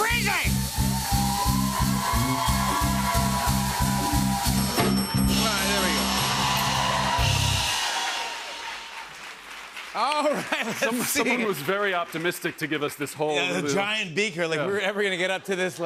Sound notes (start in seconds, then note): 0.2 cheering; 4.7 ding!; 6.1 cheers and applause